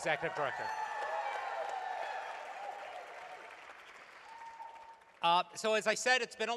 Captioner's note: applause